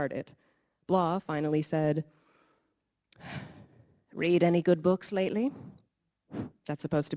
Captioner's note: sighs